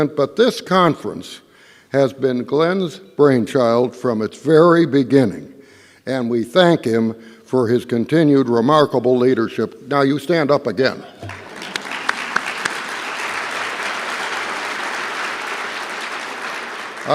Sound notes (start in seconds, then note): 11.2 applause